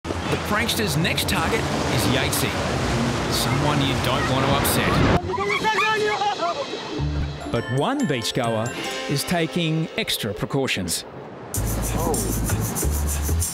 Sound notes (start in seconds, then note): 4.0 people screaming